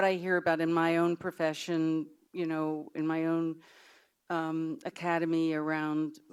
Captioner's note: none